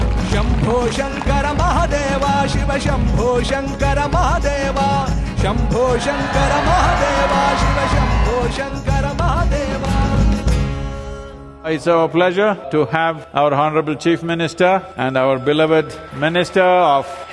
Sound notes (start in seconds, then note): 9.2 cheering/Applause